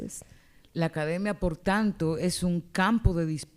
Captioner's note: speaking spanish